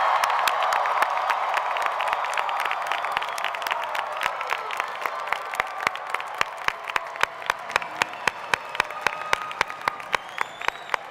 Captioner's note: applause